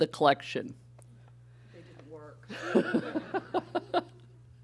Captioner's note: voiceover; laughing